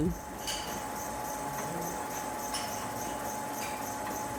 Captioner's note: machine whirring